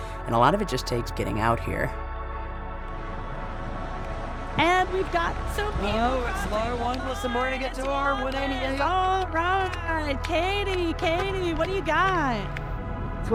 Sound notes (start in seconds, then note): 3.5 reflective music; 9.2 group cheering